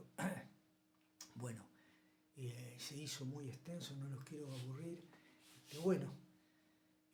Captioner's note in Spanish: carraspeo